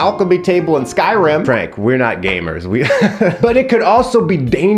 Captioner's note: laughs